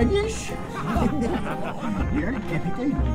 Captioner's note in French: rires